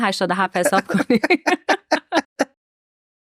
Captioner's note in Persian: خنده